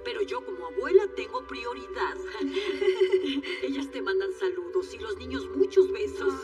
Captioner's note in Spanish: Ríe